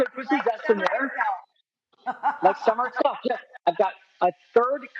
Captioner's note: Rachael laughs